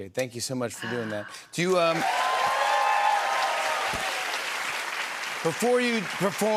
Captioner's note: cheers and applause